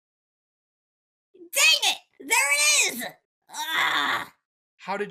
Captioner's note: groans